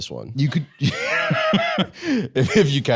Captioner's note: laughs